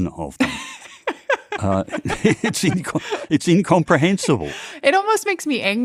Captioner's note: laughs